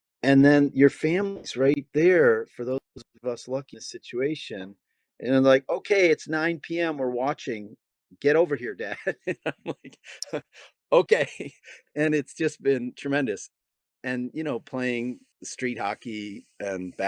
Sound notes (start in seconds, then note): 8.9 laughing